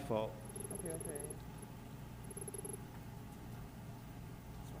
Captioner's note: text beeping